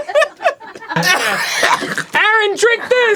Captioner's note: arin choking on his own laughter